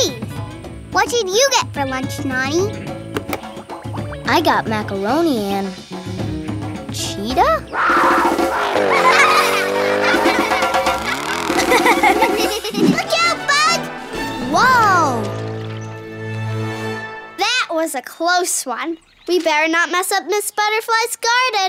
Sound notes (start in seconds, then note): 7.7 roaring; 7.8 laughing